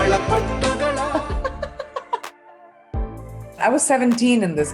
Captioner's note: laughing